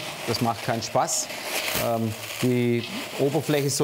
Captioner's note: rustling, crackling